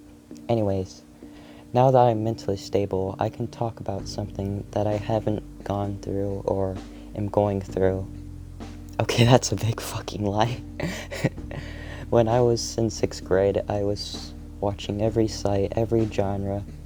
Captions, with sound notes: Anyways- Now that I'm mentally stable...... I can talk about something that I haven't gone through or am going through......... Okay that's a big fuckin' lie *Laughs*, when I was in sixth grade I was watching every site, every genre,